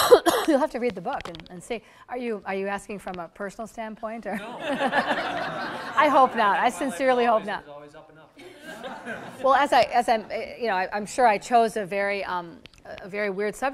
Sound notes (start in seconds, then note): 4.4 audience laughter